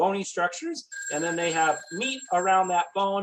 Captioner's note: phone ringing